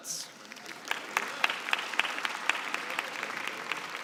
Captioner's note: applause